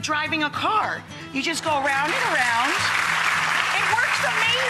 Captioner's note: crowd applauds